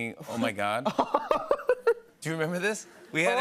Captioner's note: laughs